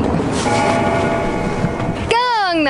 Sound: bell gongs

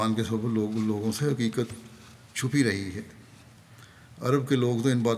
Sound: Arabic

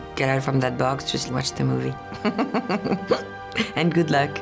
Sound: laughs

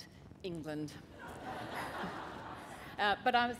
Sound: laughter

